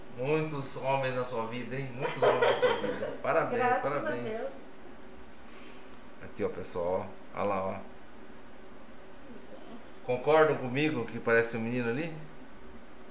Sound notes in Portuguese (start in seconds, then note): 2.0 Risos